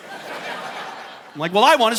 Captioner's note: audience laughing